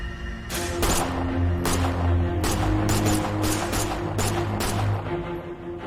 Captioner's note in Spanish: Disparos